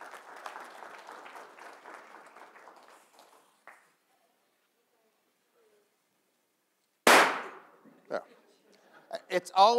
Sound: applause

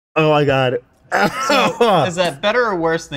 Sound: coughing

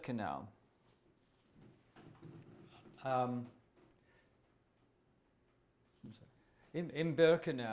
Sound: pauses for 6 seconds

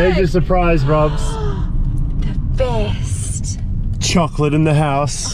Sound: gasping

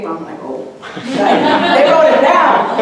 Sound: audience laughing

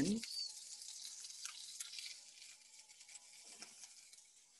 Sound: oil sizzling

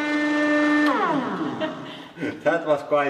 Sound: both: giggling

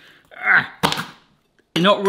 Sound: knife crunches

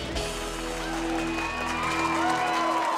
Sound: all clapping

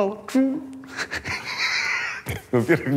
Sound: laughs

